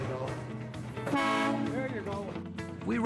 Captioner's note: train horn honking